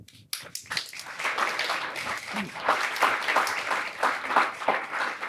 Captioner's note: applause